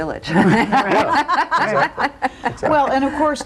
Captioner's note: laughter